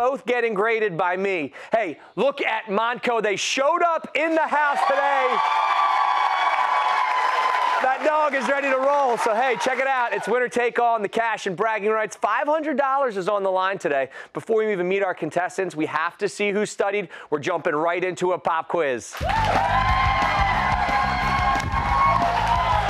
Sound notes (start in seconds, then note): 4.3 cheers